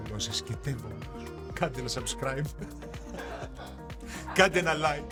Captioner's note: laughs